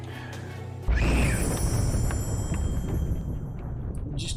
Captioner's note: humming along; thunder as Alesta screams and dies